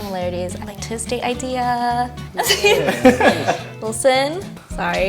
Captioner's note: laughs